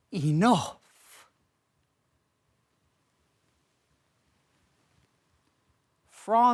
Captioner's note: rustling